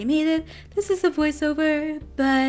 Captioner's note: singsongy